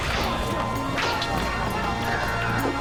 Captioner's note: thuds